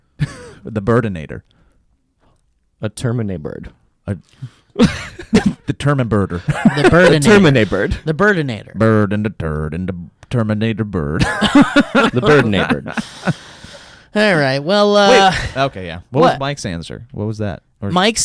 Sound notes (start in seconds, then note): 11.2 laughs